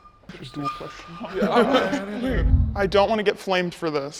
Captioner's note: people chuckling